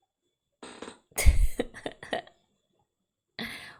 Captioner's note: laughs